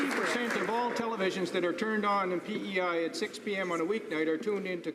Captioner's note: some Applause